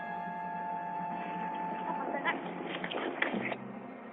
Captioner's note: horses galloping